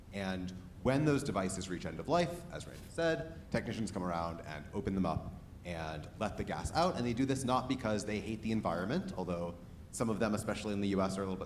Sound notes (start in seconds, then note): none